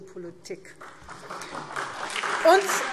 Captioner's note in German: Beifall SPD und BÜNDNIS 90/DIE GRÜNEN